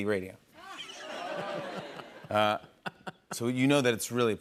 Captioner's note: laughter